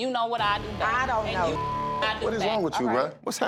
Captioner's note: beep